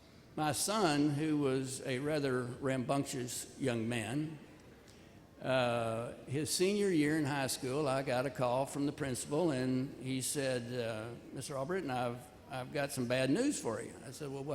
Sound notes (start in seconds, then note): none